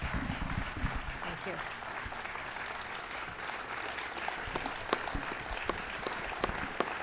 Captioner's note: applause